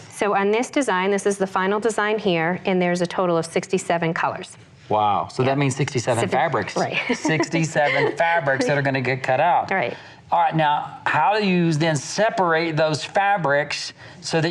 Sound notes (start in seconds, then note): 6.8 laughs